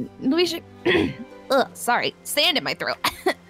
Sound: coughs

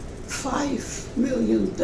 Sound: none

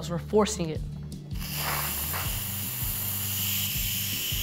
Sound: steam hisses

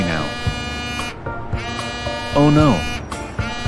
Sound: phone buzzing

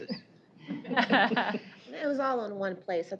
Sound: laughter

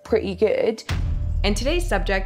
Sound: explosion booming

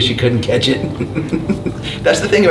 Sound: chuckles

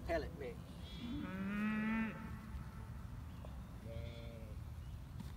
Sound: cows moo and grunt

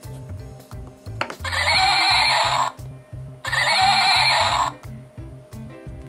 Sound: horse Sound

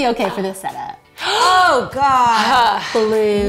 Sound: gasping

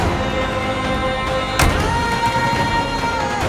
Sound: dramatic music playing; van door closing

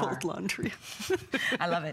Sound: electronic voice

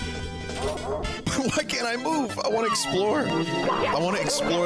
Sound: laughing

